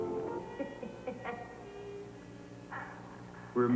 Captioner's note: Reva laughs